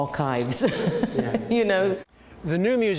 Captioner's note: laughter